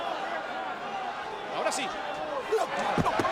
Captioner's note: applause